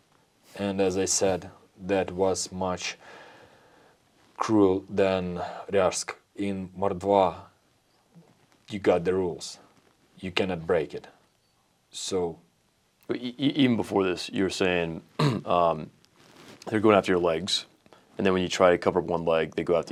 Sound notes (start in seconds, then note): 15.1 clears throat